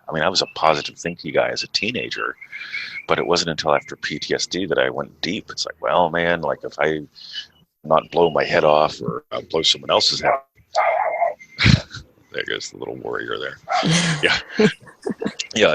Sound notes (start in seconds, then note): 10.2 dog barking; 13.0 chuckles